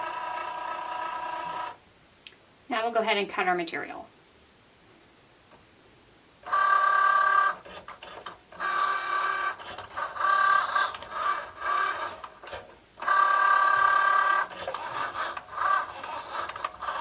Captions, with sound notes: Now we'll go ahead and cut our material. (machine whirring)